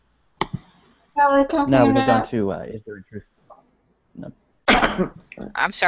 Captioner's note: coughs